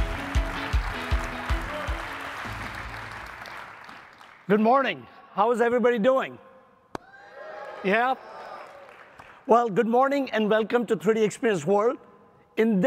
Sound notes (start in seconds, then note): 0.0 upbeat music continues; 0.0 audience applauding; 7.0 audience cheering